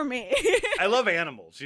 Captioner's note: laughs